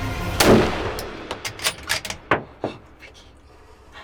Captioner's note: rifle fire banging